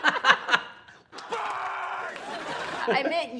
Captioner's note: both laughing; laugh track; shouting